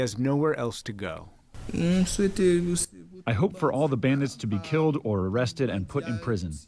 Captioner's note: through translator